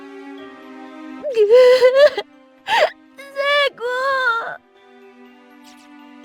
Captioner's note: cries